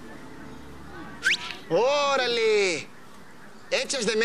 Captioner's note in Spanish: Chiflido